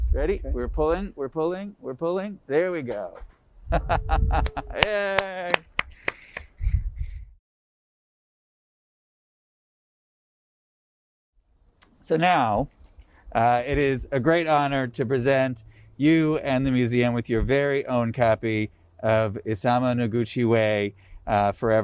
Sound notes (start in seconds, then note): 3.8 laughing; 4.4 cheering and clapping